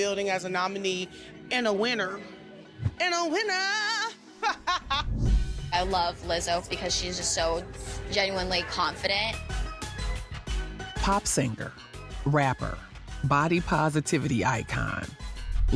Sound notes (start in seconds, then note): 4.4 laughs